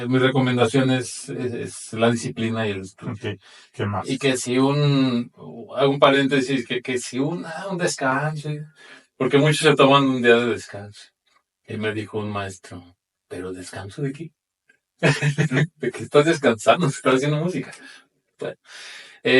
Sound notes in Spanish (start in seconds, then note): 15.0 risas